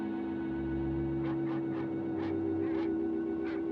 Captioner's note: barking in distance